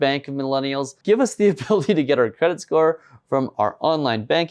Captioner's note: laughs